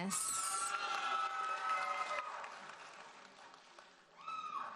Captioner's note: audience cheers and applauds